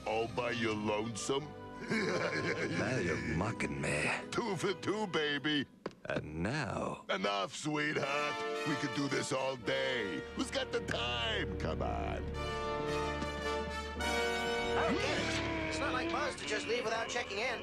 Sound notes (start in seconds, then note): 1.8 torques giggle